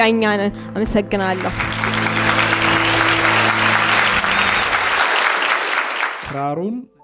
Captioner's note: applause